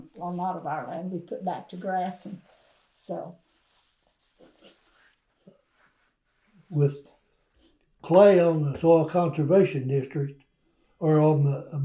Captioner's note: laughs